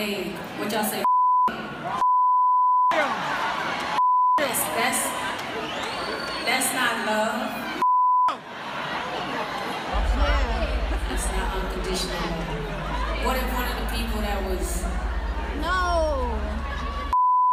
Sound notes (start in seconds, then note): 6.4 crowd yelling